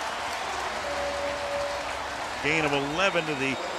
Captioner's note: pa announcement